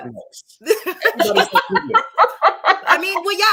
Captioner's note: group laughs